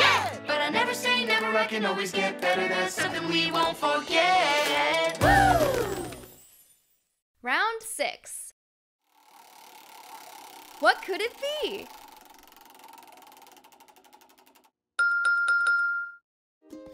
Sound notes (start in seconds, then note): 12.0 whirring